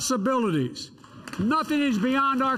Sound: applause

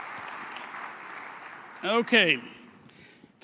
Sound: applause

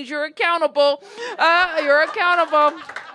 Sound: laughter

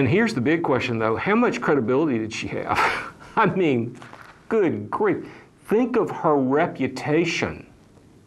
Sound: laughs

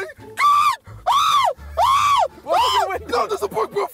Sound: JJ screaming

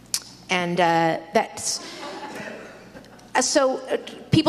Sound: audience laughs

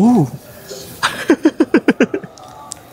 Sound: laughs

